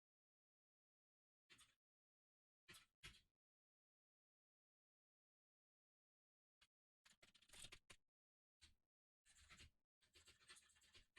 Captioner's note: typing sounds